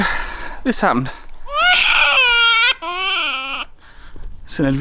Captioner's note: baby screaming